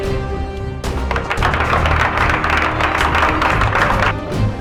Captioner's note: audience claps